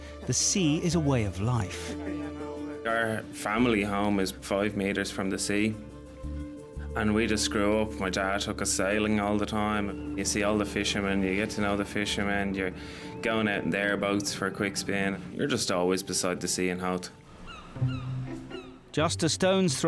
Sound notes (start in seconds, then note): 2.2 upbeat music; 17.3 seagulls squawking; 17.7 playful music